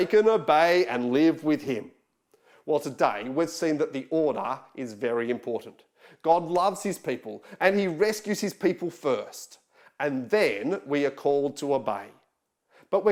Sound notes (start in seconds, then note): none